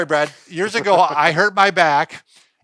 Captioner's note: chuckles